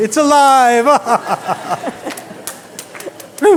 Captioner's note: maniacal laughter